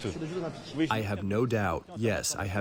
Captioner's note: through translator